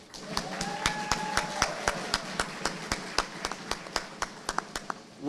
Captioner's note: audience applauding